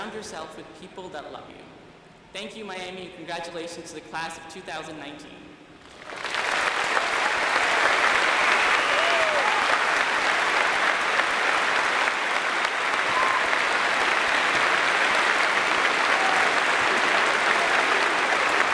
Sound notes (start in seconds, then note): 8.1 applause